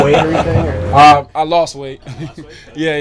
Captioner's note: chuckles